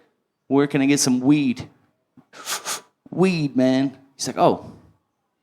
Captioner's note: puff, puff